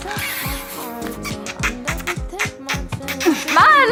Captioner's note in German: Kussgeräusche; Lachen